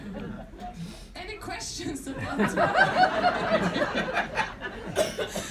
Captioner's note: crowd laughing